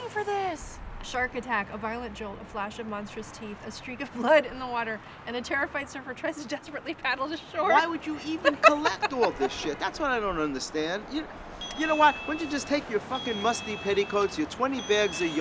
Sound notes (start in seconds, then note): 8.2 laughing